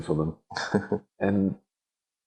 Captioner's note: laughing